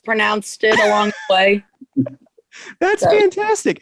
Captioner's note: chuckles